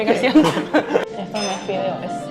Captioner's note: laughs